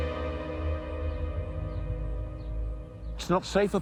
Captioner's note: birds chirping